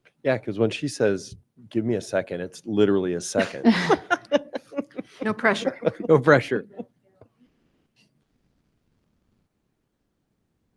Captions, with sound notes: >>Yeah, 'cause when she says, "Give me a second." It's literally a second. (members laughing) >>No Pressure. >>No Pressure.